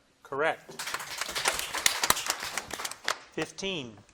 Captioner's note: audience applauding